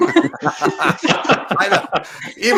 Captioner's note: laughing